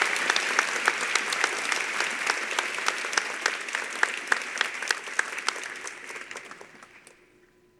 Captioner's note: applause